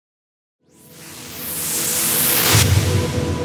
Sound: whooshing

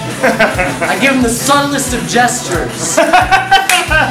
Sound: laughter

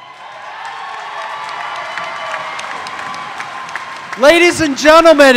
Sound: audience applauding; audience cheering

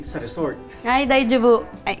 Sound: speak Japenese

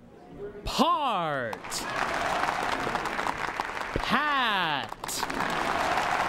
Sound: audience applauds each time new word is formed

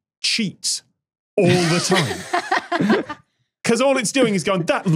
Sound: guests laughing

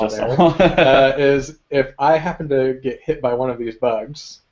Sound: laugh

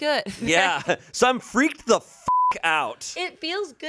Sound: beep

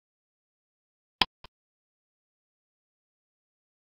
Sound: click sound

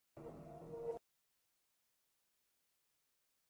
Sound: silence

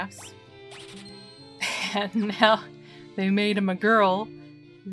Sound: laughing

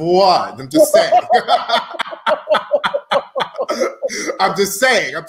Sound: laughing

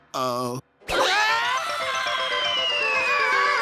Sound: screams

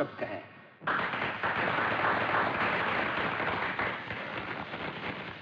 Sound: crowd Applauding

